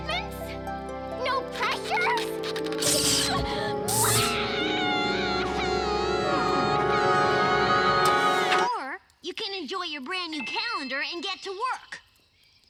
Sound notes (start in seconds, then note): 1.5 electronic buzzing; 4.0 wailing cries